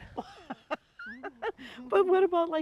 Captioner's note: laughing